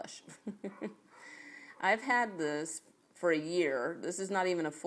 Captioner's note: chuckles